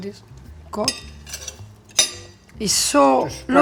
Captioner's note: cutlery clanking